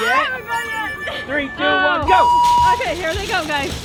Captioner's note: timer beeps